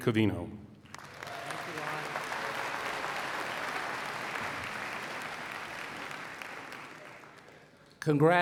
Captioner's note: applause